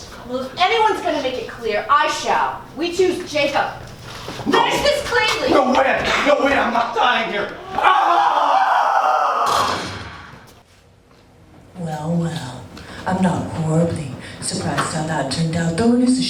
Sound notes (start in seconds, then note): 7.2 Jacob yells intensely; 9.4 gunshot sound